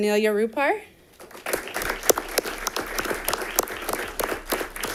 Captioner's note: audience applauding